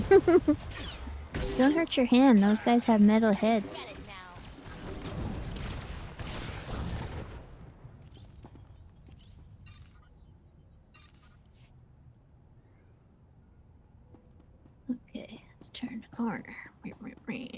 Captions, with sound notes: - Don't hurt your hand, those guys have metal heads. (gun fires) - Okay, let's turn harder.